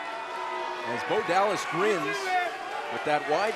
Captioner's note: crowd cheering